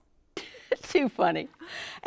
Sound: laughs

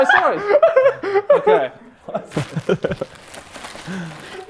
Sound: Sidemen laughing

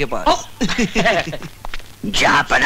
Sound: chuckles

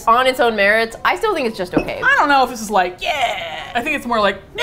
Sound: excitedly

